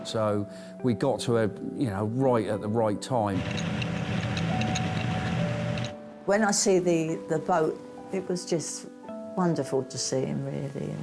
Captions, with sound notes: So we got to her right at the right time. (engine rumbling) - When I see the boat, it was just wonderful to see 'em, really, you know?